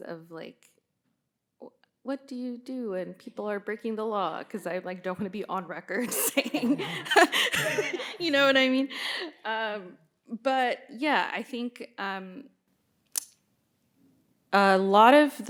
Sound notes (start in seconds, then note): 6.0 laughing; 6.4 audience laughing